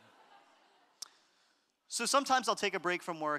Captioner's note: audience laughter